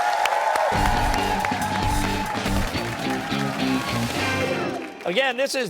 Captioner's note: cheers and applause